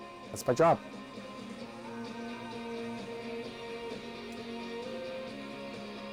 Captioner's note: store radio plays in background